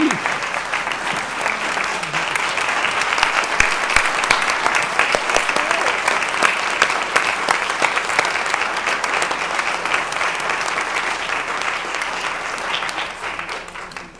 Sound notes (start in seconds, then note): 0.0 applause